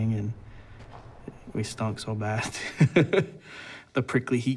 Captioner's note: laughing